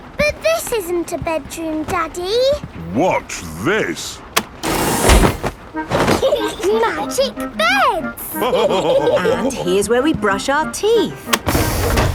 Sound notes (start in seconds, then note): 6.0 laughing; 8.3 all laughing